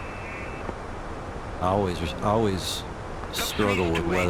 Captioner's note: radio chatter